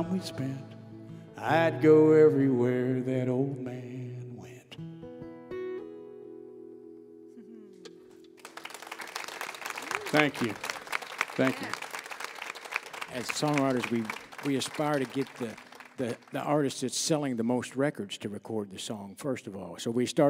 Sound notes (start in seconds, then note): 8.1 applause